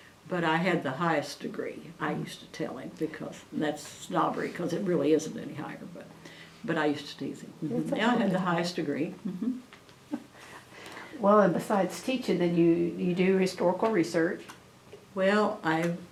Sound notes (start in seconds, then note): 9.1 laughs